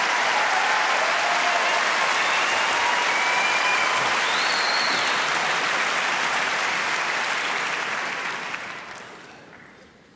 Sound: cheering

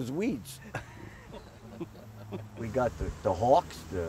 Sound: everyone laughs

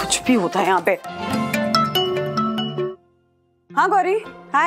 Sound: phone ringing

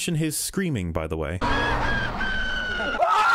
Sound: more obnoxious screaming; obnoxious screaming

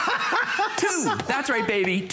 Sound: laughter

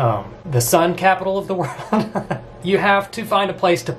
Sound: laughs

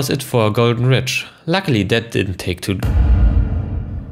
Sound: thud

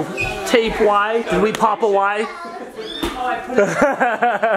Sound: laughs

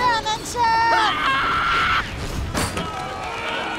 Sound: screaming

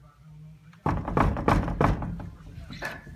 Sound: knock knock knock knock

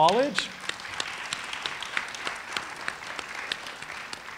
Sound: audience applauding

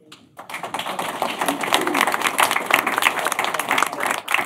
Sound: applause

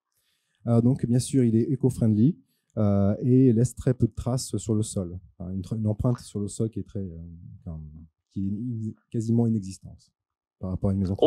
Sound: translating into french

